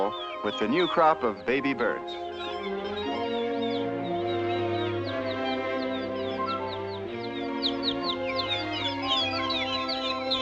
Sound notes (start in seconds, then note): 2.7 chirping weakly